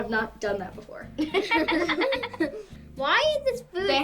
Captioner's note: laughs